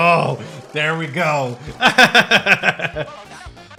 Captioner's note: laughs